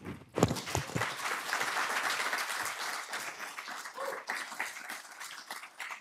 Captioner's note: applause